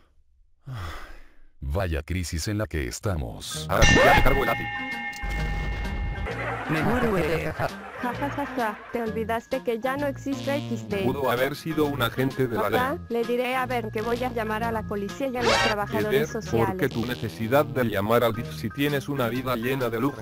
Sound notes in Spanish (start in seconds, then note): 0.6 Suspiro; 6.1 risa nerviosa; 6.1 Risas de fondo